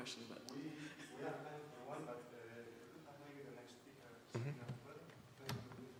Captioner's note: male Voice